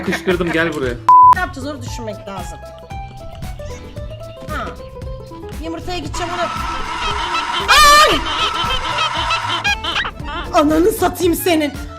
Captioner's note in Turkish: Çığlık